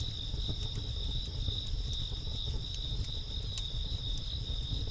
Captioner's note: crickets chirping